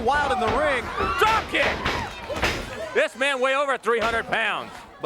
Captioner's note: crowd cheering